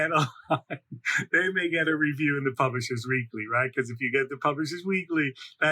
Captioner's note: laughs